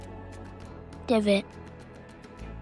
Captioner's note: voiceover